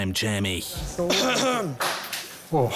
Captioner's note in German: Räusper